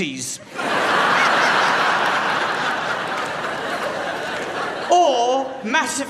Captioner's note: crowd laughs